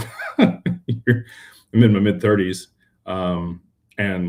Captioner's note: laughter